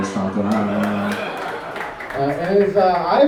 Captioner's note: audience laughs